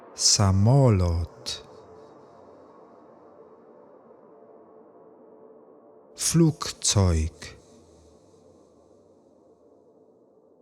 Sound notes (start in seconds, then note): 7.5 german